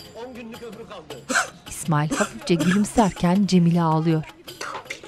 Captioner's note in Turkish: Ağlama sesi